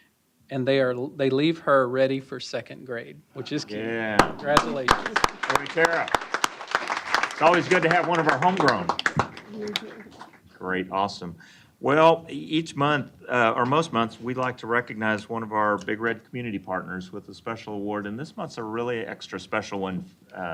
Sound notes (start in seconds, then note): 4.2 applause